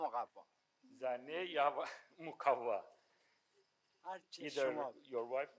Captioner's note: speaking in foreign language